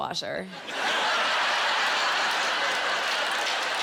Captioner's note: laughing